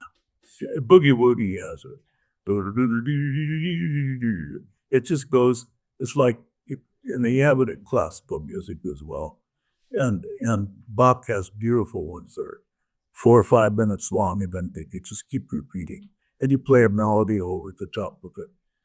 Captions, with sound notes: Boogie woogie has a (humming) it just goes, it's like, and they have it at classical music as well. And Bach has beautiful ones there four or five minutes long and then they can just keep repeating. And you play a melody over the top of it